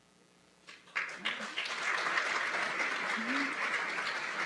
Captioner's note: applause